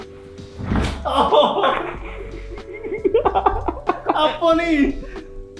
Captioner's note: laugh; scream